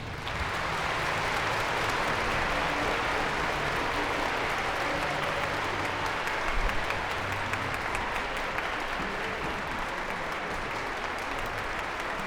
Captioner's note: audience Applause